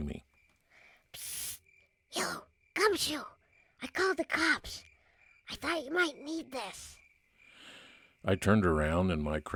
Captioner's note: night sounds